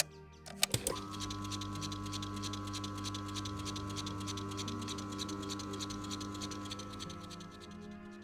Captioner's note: clicking sound; cassette rewinding; soft music